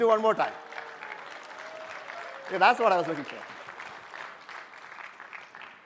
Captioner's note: applause